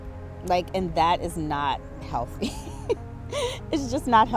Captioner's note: laughs